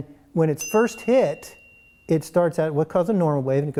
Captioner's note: bell chime